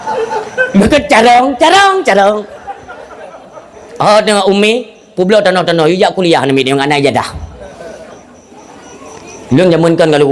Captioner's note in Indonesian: tertawa